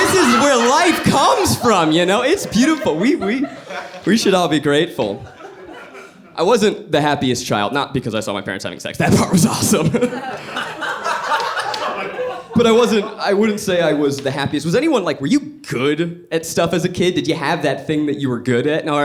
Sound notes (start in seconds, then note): 9.1 laughs; 10.7 audience laughing